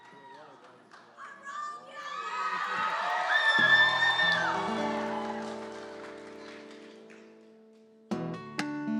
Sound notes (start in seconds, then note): 1.7 cheering; 4.3 guitar music